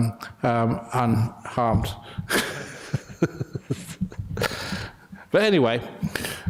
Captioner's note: laughter